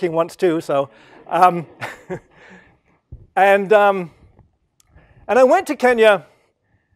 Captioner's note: laugh